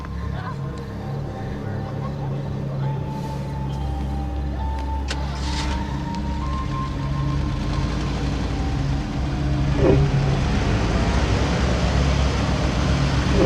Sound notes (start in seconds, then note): 5.0 engine turns over, starts; 10.5 engine accelerates